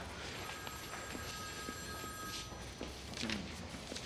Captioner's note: telephone ringing